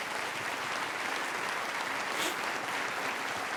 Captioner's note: applause